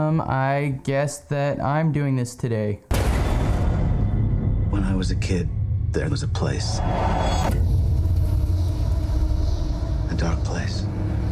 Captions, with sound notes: I guess that I'm doing this today. (dramatic sound) - When I was a kid, there was a place. (dramatic music) A dark place.